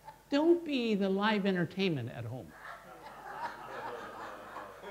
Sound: laughter

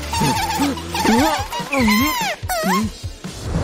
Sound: whistles

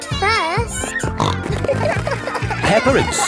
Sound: snorting

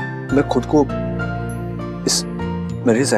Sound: none

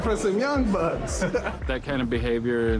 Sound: laughs

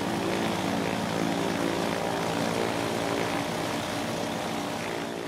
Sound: even engine noise

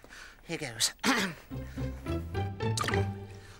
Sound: clears throat; children's music

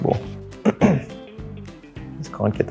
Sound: clears Throat

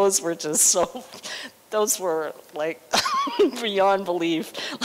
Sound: laughter

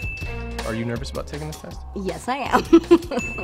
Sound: chuckles

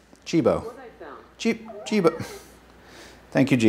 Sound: Jibo chattering

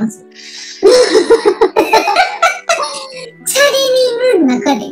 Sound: laughs

